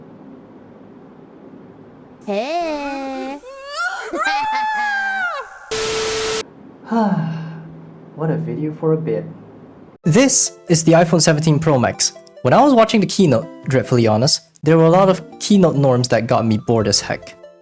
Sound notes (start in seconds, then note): 3.5 old man screams; 6.8 sigh